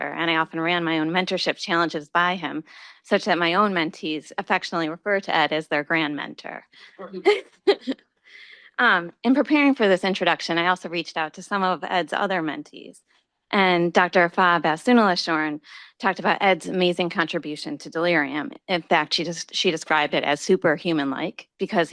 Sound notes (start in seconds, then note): 7.0 chuckles